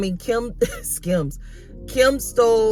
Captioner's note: chuckles